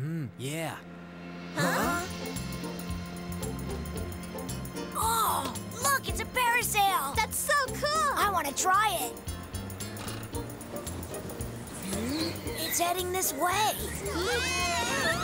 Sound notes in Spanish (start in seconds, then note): 11.4 gritos